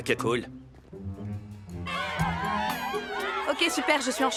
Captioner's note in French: cris, acclamations